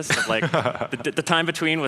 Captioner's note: laughter